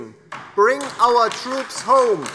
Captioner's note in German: Beifall DIE LINKE